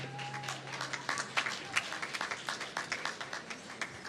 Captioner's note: applause